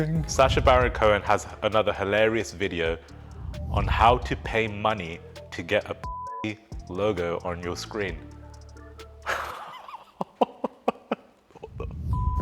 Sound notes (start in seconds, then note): 6.0 beep; 9.2 laughing; 12.1 beep